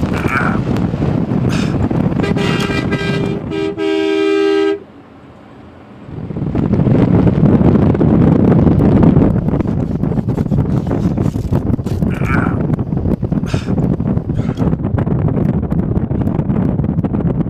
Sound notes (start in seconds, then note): 2.1 horn blaring; 8.0 wind rustling; 12.0 Rob groaning